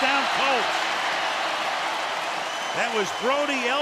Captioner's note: cheering